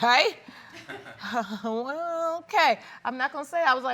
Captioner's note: chuckles